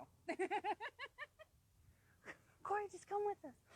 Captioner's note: laughing